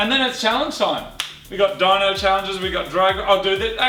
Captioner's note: claps